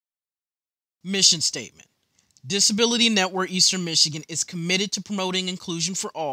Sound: voiceover

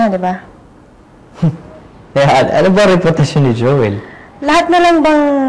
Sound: scoffs

